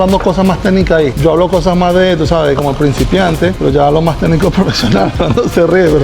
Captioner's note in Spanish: risas